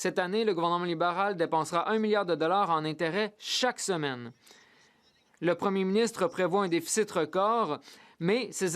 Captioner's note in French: voix de l'interprète